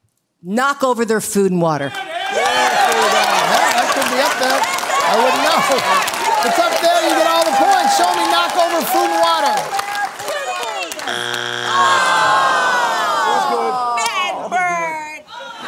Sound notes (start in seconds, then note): 2.1 shouting encouragement; 11.0 buzzer sounds; 15.4 laughing